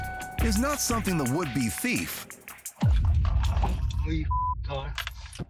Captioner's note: beep